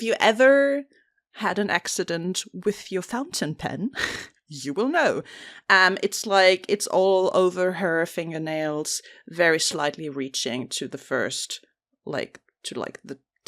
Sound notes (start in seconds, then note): none